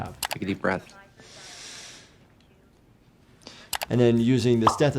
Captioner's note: patient inhales deeply